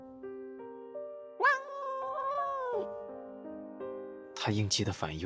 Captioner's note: cries